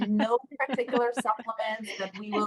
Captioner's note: laughing